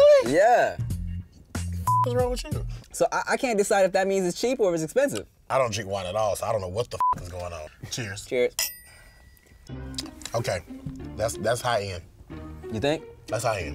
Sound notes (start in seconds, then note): 1.8 beep; 7.0 beep